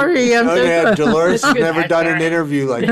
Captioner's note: chuckling